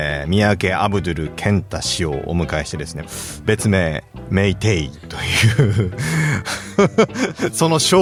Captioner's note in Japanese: 笑い